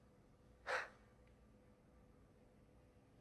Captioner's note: sighs